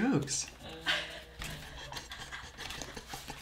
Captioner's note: laughing